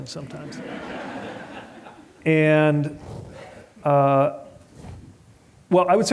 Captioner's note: laughter